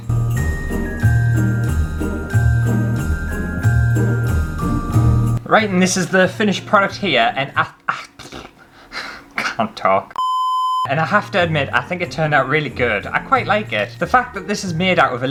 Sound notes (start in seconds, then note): 0.0 christmas Music; 10.2 beep